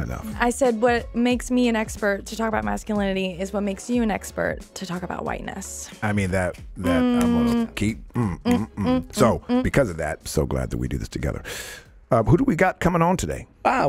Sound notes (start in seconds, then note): 6.9 snapping fingers and humming playfully